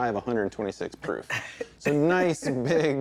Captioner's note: chocking; both laughing